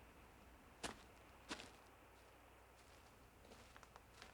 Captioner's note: footsteps on grass